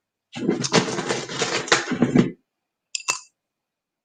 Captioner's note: bag rattles